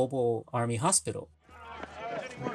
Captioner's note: soundbite of tv show, "m*a*s*h"